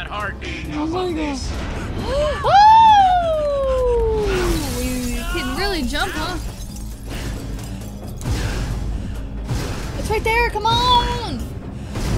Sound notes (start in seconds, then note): 2.0 Sabrina screams